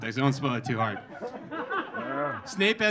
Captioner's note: audience laughing